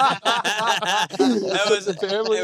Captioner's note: laughing